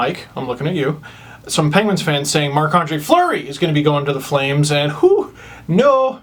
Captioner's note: woo!